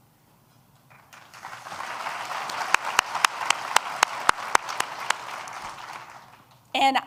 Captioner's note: applause